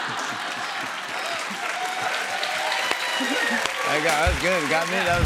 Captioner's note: cheers and applause